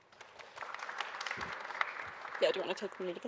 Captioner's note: audience applauding